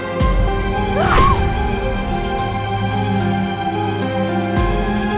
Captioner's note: Aleks grunting